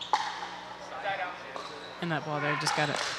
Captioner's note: people chattering